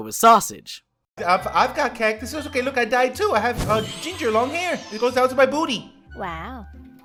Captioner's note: Phoenix screech